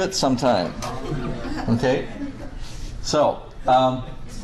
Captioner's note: class chuckles